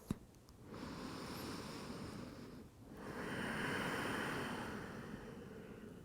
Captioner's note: inhaling and exhaling